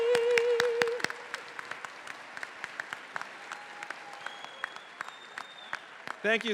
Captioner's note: faculty, graduates, and audience applauding